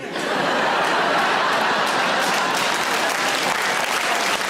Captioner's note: audience laughs and claps